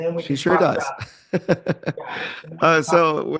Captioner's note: laughs